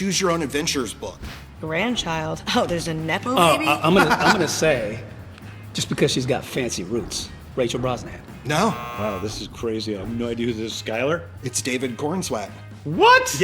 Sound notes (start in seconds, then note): 8.5 buzzer